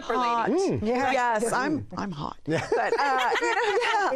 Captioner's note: laughter